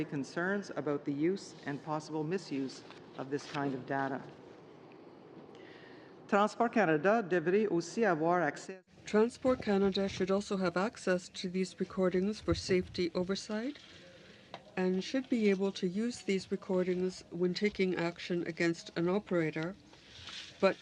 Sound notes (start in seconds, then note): 14.3 speaking French